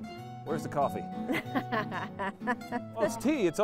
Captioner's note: laughing